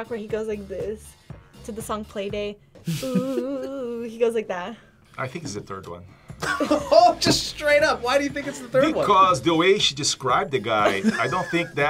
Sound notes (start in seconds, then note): 6.4 React laughs